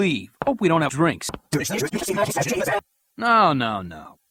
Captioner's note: Yuyanese